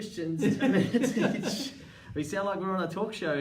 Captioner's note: laughing